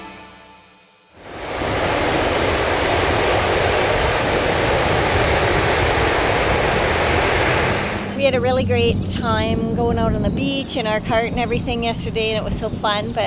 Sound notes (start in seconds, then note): 1.1 waves rolling in